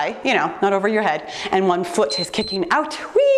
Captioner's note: timer beeps